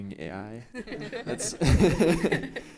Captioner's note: laughing